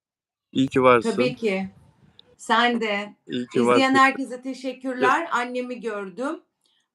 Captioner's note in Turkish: boğazını temizler